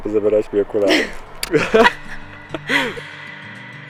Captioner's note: laughs